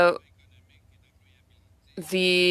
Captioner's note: speaking french